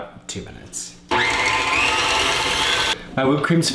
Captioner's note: mixer whirring